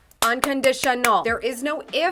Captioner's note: clapping